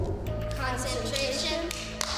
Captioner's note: hand clapping